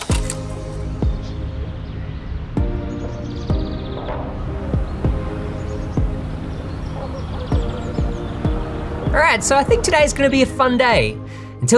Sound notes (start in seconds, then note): 0.0 upbeat music; 1.0 birds chirping; 6.9 dog barking